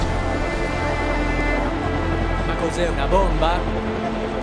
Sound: speaks in italian

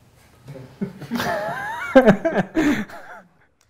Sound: laughing

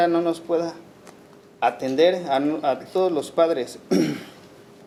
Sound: speaking Spanish

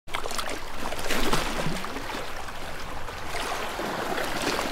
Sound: gently moving water

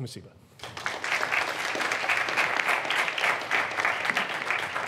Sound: audience clapping

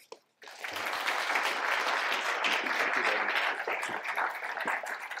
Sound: applause

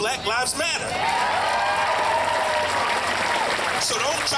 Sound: crowd cheering

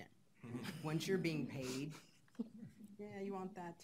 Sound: laughing

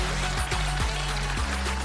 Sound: applause

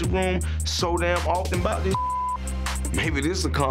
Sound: beep

